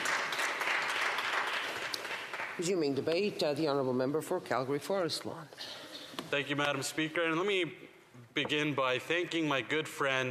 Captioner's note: applause